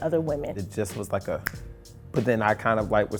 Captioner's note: snap